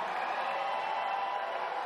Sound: applause

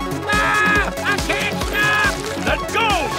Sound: screaming

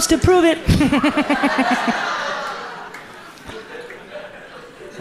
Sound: audience laughs

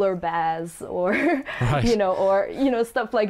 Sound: laughs

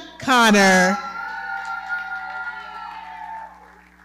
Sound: audience cheering and clapping

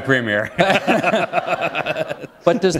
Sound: laughter

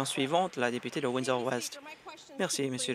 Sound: applause

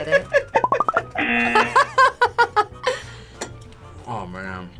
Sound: buzzer; laughs

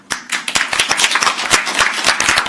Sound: audience applauding

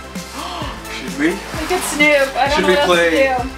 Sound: gasps

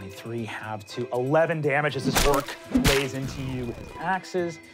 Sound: smacking

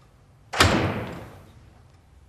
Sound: door closing

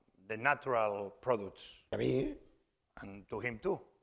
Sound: speaking spanish

